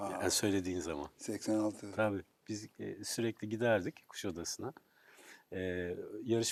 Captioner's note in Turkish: none